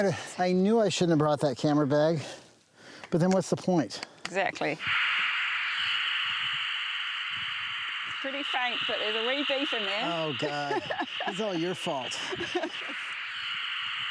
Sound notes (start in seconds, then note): 4.6 static; 12.1 laughing